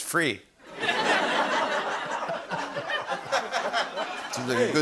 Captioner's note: laughter